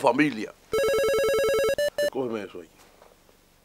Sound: phone ring

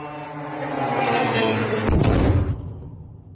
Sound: explosion

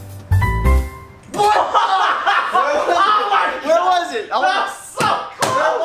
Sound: laughs

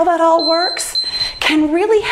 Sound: timer beeps

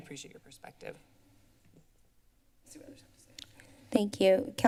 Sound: silence

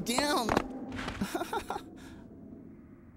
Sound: laughs

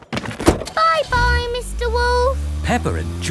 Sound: engine starts

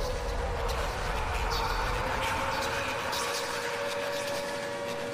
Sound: announcer's voice echoes

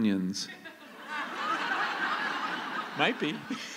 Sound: laughter

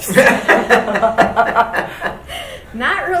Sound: board laughing

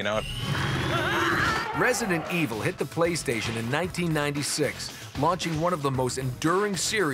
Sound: screaming

